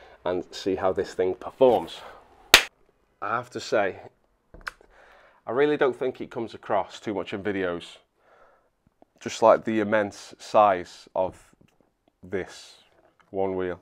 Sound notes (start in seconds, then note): 2.5 clap